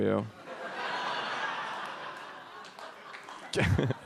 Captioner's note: audience laughs